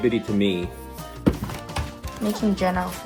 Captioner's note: slams table